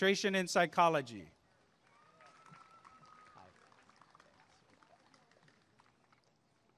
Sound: applause and cheering

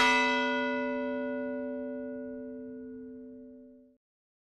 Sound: bell rings once

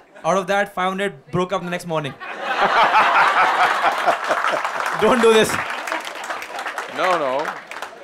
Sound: laughter/Applause

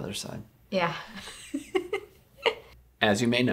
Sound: laughs loudly

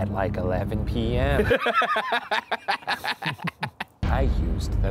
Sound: laughs

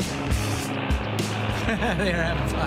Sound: plane engine roaring; laughing

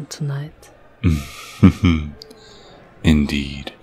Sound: laughing politely

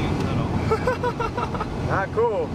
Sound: laughing

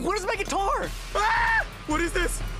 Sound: he screams

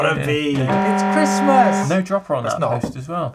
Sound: siren rings

